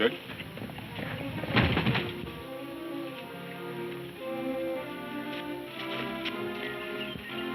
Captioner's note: body thudding; dramatic music